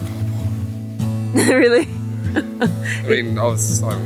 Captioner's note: laughs